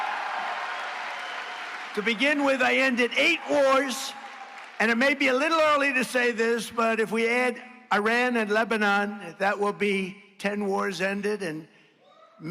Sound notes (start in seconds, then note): 6.8 applause